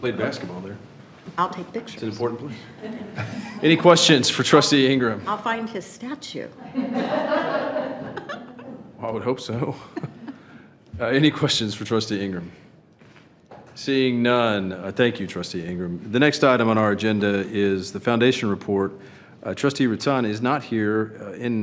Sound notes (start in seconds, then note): 2.5 trustees and attendees chuckle; 6.6 trustees and attendees laugh